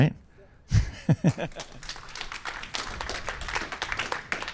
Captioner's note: applause